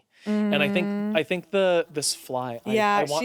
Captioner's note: fly buzzing